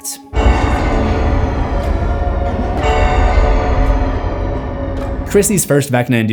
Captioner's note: clock Sound